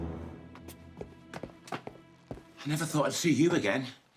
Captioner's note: footsteps tap